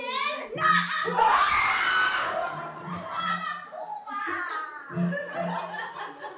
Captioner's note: screams